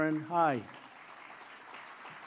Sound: applause

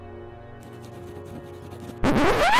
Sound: record Scratch

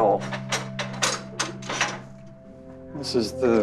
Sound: clanking sound

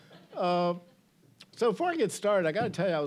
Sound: audience chuckling

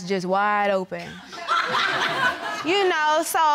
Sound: audience laughing

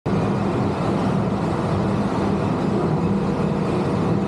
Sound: machine rumbling

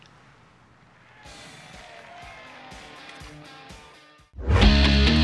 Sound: people cheering; rock music; upbeat music

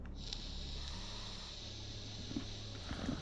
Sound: inhales vapour

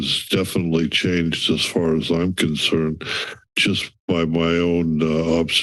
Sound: inhales

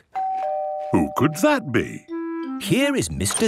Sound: doorbell ringing

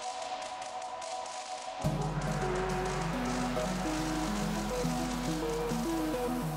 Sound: lightening bolts striking and sparking

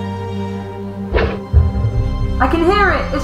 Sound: thumping

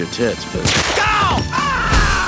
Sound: gunshot; roars

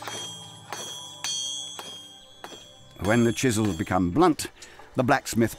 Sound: tools clinking

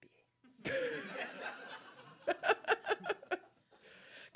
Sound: laugh; laughs

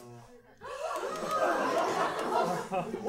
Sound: all gasp

